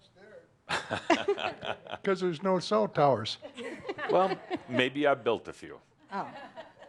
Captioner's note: laughter